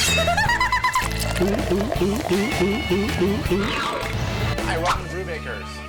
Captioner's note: laughing; gulping